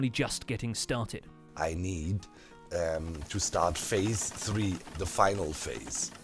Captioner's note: redstone clacking and sizzing frantically